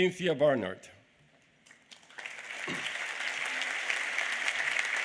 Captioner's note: applause